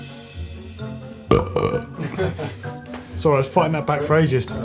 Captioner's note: burping